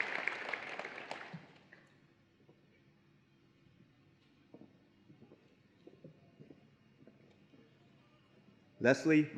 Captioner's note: applause and Cheering